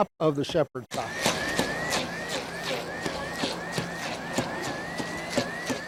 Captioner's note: emersion blender whirs